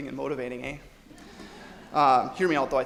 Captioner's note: audience laughs